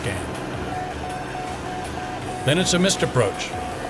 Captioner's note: beeping